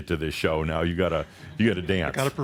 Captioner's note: Adamus chuckles